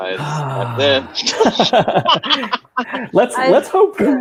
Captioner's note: laughing